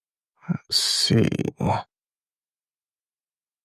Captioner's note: silence